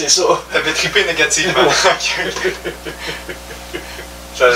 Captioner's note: laugh